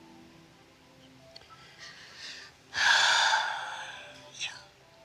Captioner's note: exhales deeply